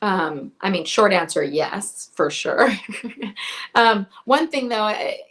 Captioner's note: chuckles